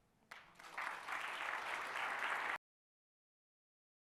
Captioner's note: audience clapping